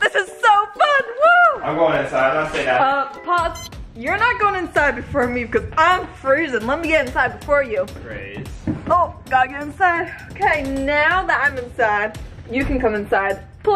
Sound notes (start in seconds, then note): 3.3 machine bleeps